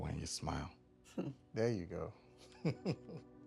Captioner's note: chuckles